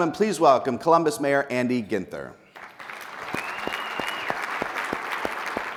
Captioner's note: people applauding